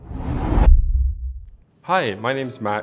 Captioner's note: whoosh